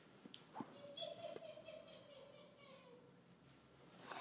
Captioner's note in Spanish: Risa fantasma